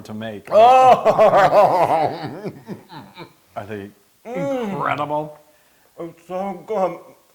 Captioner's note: laugh